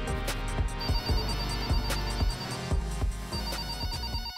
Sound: phone ringing

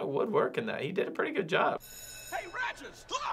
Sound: bell rings

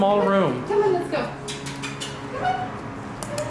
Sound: kisses

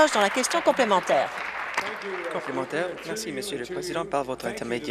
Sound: some Applause

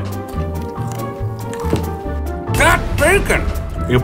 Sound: bacon crunches

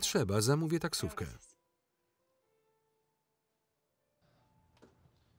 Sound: speaking foreign language

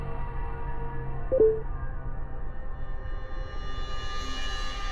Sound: notification beep

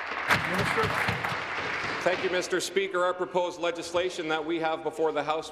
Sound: applause

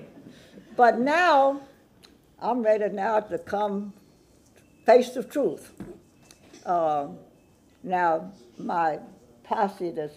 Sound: laughter

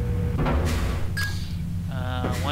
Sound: ding whoosh

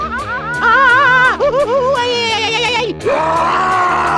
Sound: screaming

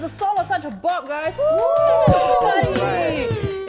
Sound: cheers

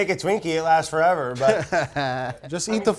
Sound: laughing

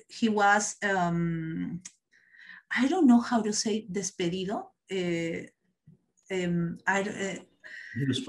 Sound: non-english speech

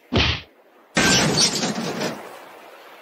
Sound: bonk

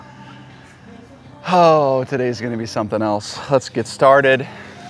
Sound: exhales

